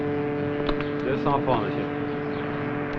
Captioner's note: French spoken audio